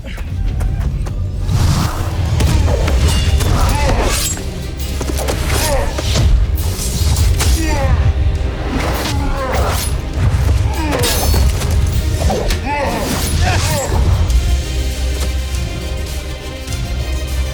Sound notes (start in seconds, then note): 0.2 ominous music playing; 1.4 swishing, thumping, clanging; 2.5 grunting, growling, groaning